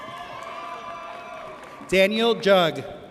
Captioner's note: audience cheers